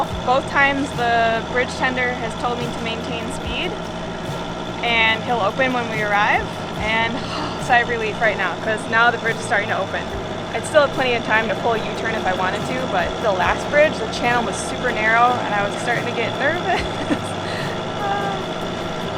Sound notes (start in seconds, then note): 7.0 sighs; 18.2 chuckles